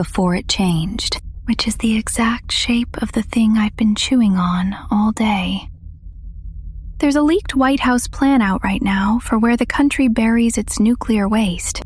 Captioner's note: whispers